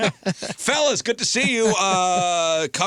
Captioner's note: laughing